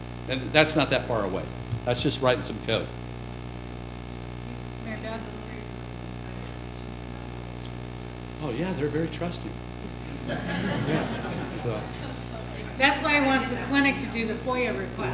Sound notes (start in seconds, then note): 10.0 laughter